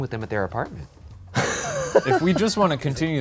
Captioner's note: laughs